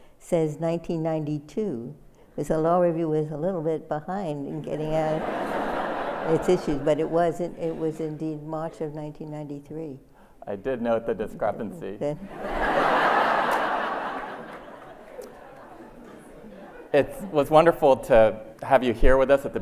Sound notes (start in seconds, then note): 12.2 laughter